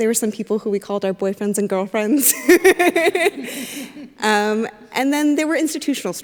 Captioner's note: laughs